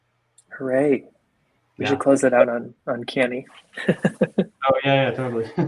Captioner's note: chuckles